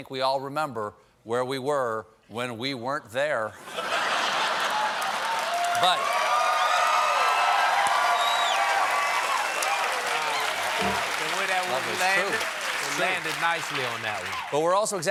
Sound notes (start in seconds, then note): 3.6 laughter; 4.0 cheers and applause